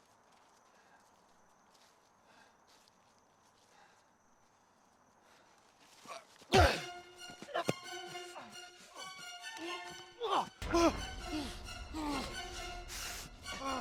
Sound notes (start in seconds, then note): 6.7 axe thuds; 10.8 grunting